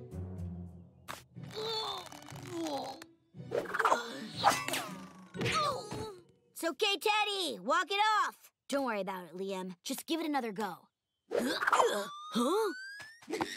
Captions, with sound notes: [groaning] [grunting] It's okay, Teddy, walk it off. Don't worry about it, Liam, just give it another go. Huh?